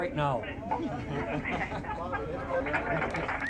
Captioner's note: room laughing; team clapping